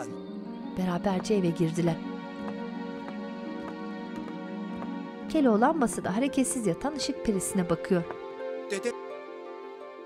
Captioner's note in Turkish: Ayak sesleri